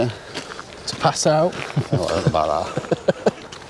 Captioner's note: laughter